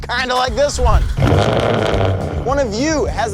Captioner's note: car engine roaring